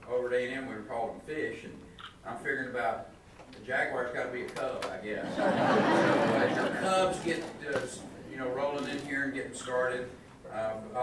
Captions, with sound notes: Over at A&M we were callin' fish, and I'm figuring about, the Jaguars gotta be a cub, I guess. (audience laughing) Cubs get rollin' in here and gettin' started,